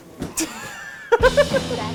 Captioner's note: laughter